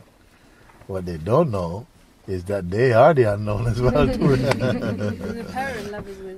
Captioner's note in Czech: smích